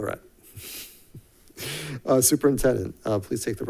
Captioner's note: chuckling